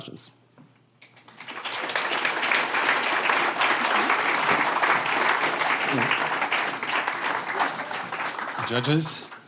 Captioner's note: applause